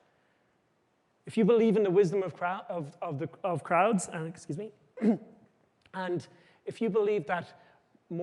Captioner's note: clears throat